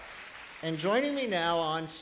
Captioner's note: applause